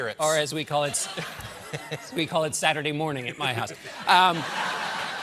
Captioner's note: laughter